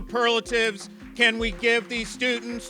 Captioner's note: applause